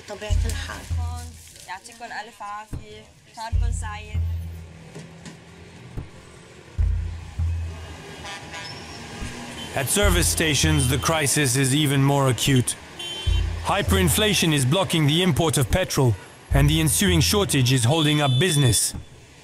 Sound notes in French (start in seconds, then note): 1.5 Arab spoken audio